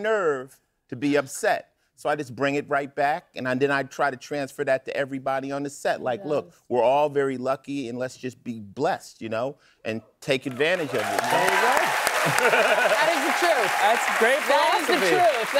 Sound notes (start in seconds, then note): 10.5 cheers and applause; 12.0 laughs